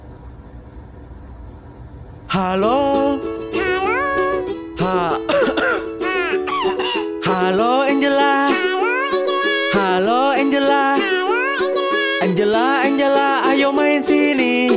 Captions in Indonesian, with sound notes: Halo Halo Ha... (batuk) Ha... (batuk) Halo, Angela Halo, Angela Halo, Angela Halo, Angela Angela, Angela, ayo main sini